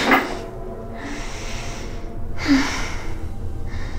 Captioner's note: moaning